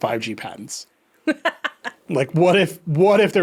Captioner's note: laughing